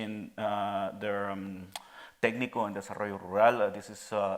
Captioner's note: speaking in Spanish